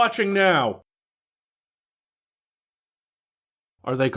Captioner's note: awkward pause